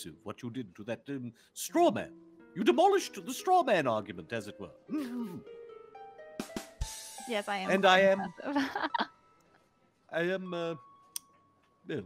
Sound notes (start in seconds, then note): 6.2 comedic drum line; 8.0 laughing